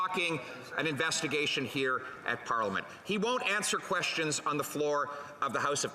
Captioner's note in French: voix de l'interprète